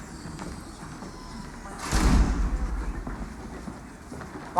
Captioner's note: door closes